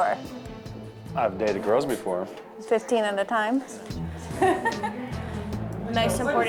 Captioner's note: laughing